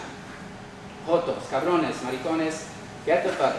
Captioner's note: speaking Spanish